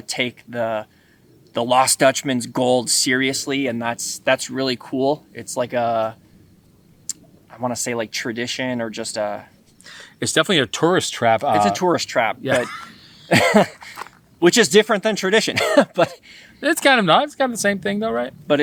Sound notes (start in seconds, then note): 13.2 both laughing